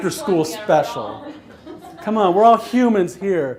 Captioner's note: laughs